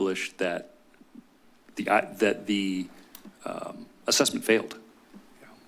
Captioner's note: stuttering